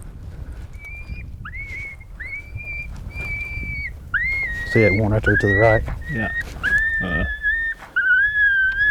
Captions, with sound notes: (coyote shrills) See that one right there to his right. - Yup.